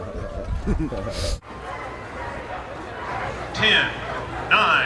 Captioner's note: chuckles